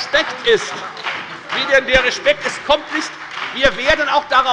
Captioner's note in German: Beifall bei der FDP, der SPD und der LINKEN